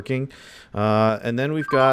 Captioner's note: notification